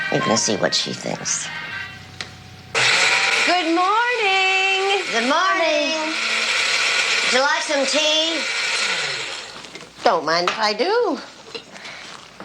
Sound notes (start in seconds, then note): 2.8 blender whirling